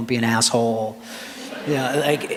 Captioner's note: laughter